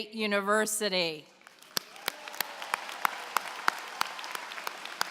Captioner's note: applause